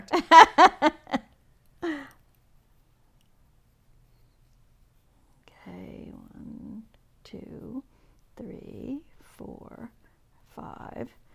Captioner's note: laughing